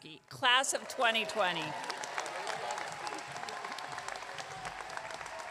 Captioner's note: audience clapping